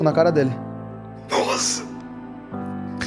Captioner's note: laughs